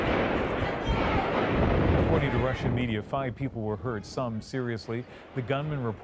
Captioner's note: gunshots